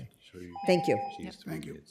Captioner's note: ringing bell